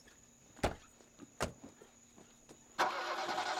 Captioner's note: car doors close; engine turns over